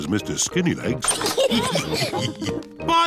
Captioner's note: all laugh